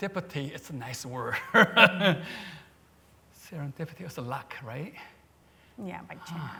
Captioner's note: laughs